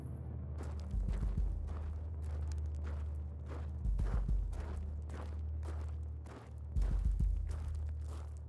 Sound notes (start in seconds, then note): 0.0 suspenseful music; 0.5 dirt crunching softly